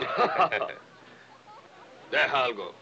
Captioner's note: man laughs